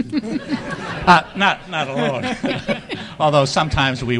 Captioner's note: audience laughing